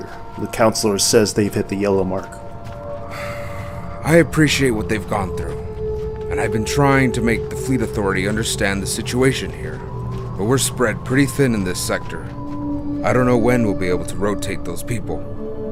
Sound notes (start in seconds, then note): 3.0 sighs